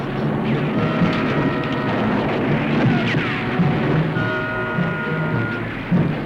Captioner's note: suspenseful music; gunfire continues